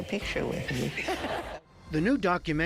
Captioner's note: laughter